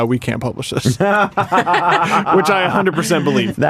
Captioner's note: laughter